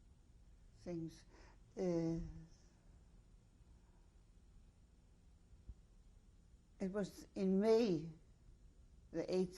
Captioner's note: pauses for 6 seconds